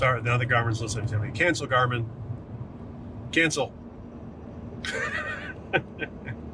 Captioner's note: laughs